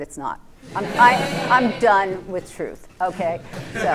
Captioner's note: laughter